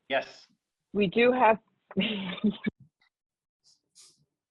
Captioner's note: chuckles